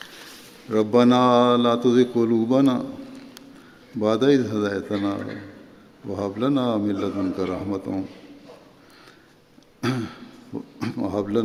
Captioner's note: Arabic